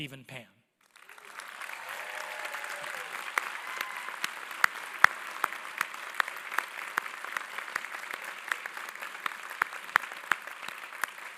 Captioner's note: applause